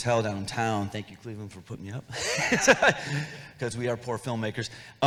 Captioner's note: laughs